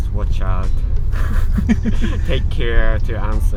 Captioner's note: laughing